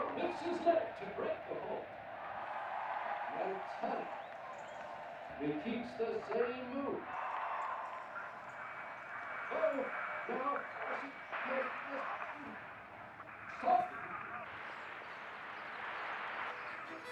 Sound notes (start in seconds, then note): 12.0 static hisses